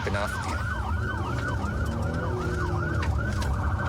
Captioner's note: engine guns